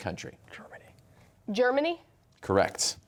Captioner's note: whispering